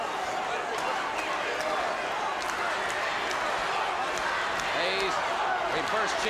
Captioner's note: crowd cheering